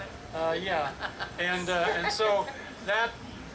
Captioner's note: laughs